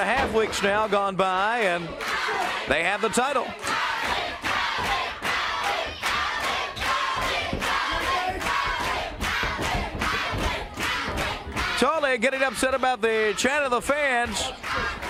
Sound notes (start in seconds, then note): 2.4 crowd cheering